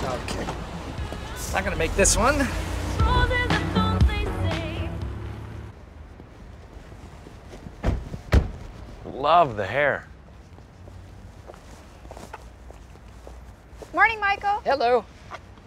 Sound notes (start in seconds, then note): 7.8 car doors shut